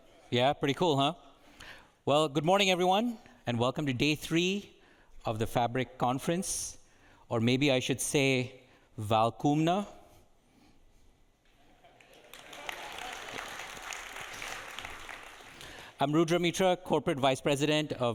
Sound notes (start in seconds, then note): 8.2 speaking in a foreign language; 11.8 audience applauding and chuckling